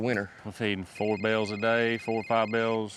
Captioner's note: cell phone rings